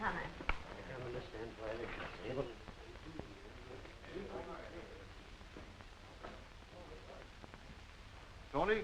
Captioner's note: group muttering